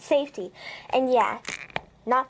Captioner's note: pop